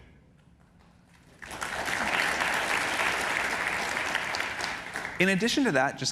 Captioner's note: applause